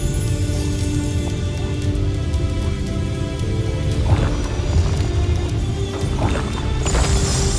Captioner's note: celestial chimes; water gurgling; celestial chimes